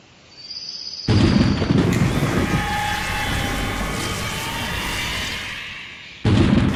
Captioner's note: ground rumbling; wind whirring